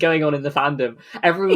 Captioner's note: laughs